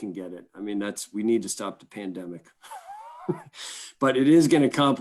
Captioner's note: laughs